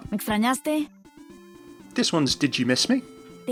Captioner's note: Sombra speaking in foreign language